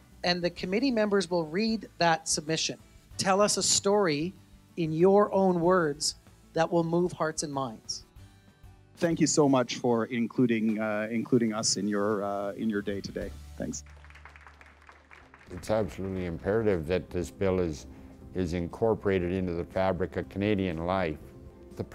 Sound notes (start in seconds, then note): 13.6 applause